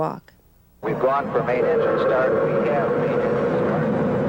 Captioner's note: mission control radio chatter